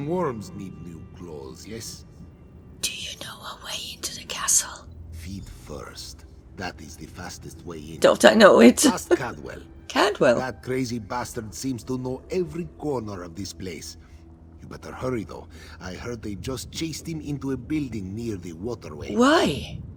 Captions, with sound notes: (whispers) Do you know a way into the castle? Don't I know it! Cadwell! Why?